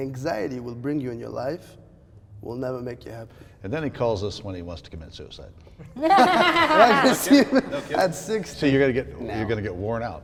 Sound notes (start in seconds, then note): 5.9 laughter